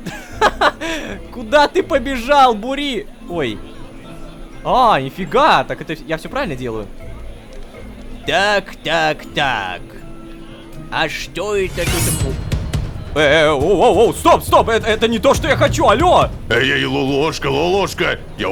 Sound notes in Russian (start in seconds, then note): 11.5 Звук клинка